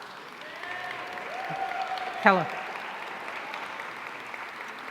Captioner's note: audience cheering